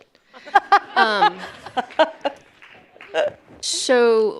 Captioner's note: audience laughing